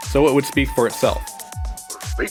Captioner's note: laughs